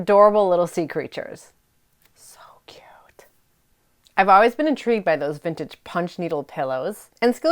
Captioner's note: whispers